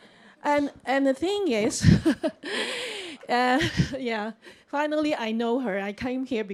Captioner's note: chuckles